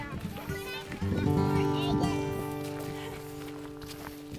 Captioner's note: children's chatter